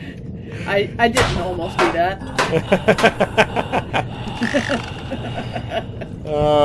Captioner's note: both laughing; pinging; both laughing